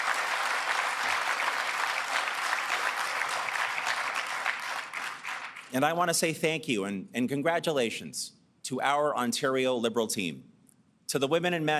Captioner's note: applause